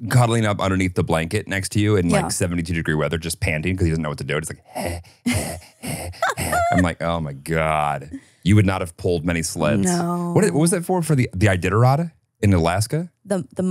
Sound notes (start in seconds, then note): 5.2 panting; 6.2 laughs